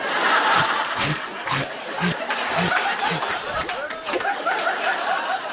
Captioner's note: laughter